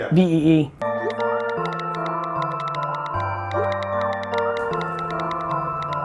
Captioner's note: hip hop music; phone texting